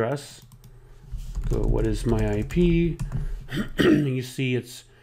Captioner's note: clears throat